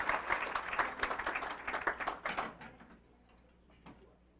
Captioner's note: applause